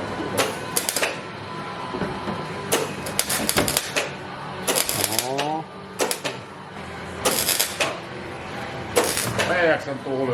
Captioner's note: the sound of the drill